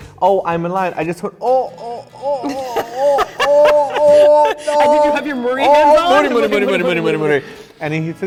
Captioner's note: laugh